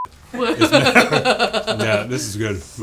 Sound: laughs

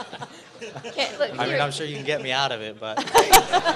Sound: laughter; laughter

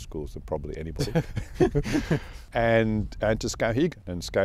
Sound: both laughing

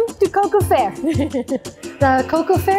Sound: laughs

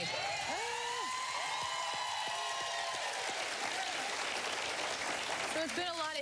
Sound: cheering and applause

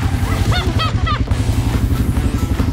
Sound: chuckled

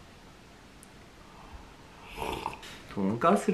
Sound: slurping

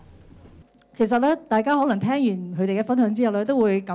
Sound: Cantonese

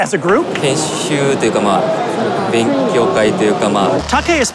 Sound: speaking Japanese

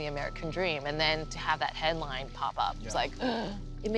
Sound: gasps

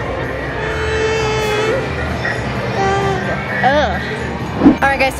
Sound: child crying

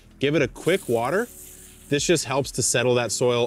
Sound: water sprays

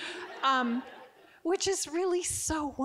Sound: audience giggling

